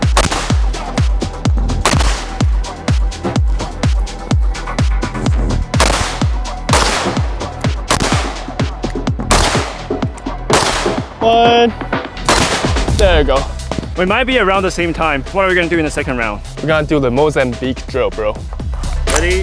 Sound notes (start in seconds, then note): 0.3 gun firing; 0.3 upbeat music; 12.2 gun fires